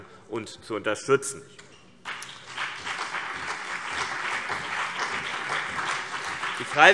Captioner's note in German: Beifall CDU und BÜNDNIS 90/DIE GRÜNEN